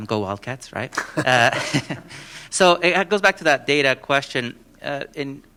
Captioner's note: laughter